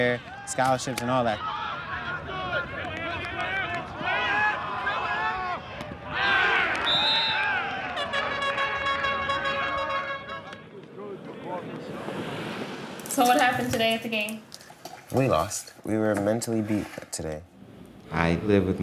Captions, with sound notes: career, scholarships and all that. [Crowd cheering] [Players yelling] >>> So, what happened today at the game? >>> We lost. We were mentally beaten today.